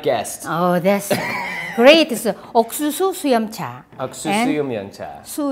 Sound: laughs

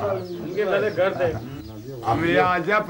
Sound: foreign spoken audio

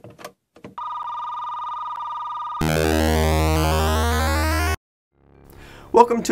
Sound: landline phone ringing sound, electronic chords

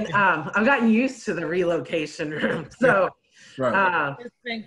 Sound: laughs

